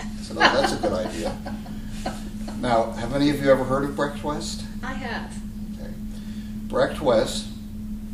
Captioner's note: laughter